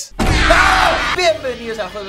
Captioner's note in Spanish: Grita